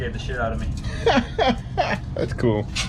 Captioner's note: laughing